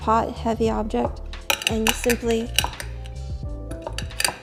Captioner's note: peppercorns cracking